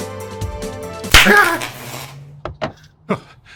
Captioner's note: electricity crack